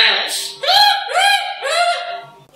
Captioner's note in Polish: śmiech